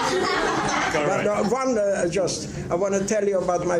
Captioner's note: laughing